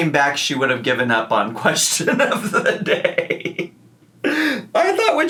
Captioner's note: laughs